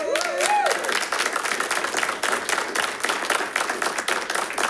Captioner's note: audience clapping